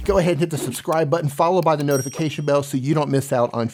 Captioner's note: bell ringing